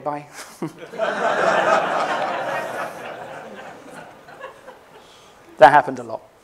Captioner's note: laughter